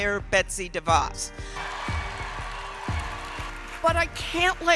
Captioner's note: audience cheers